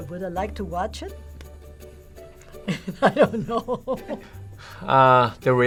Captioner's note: laughs